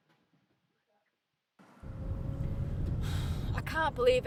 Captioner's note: car engine noise; sighs